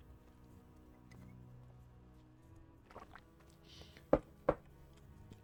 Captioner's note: silence